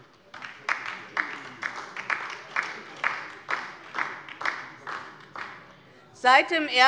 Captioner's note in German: Beifall DIE LINKE und vereinzelt SPD